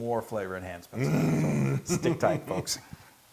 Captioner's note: laugh